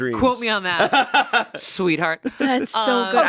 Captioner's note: laughs